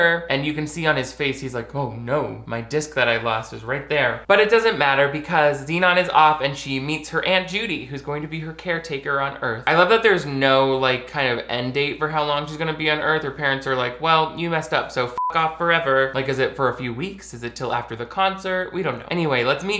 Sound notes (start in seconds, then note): 15.1 beep